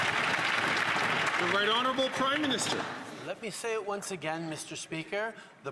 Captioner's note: some Applause